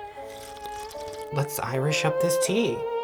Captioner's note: slurping